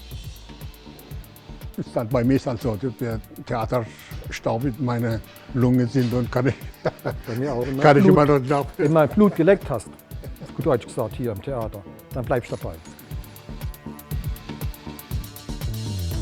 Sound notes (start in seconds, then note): 6.4 laughter